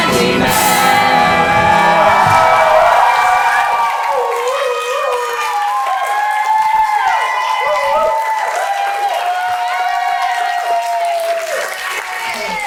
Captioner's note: audience cheers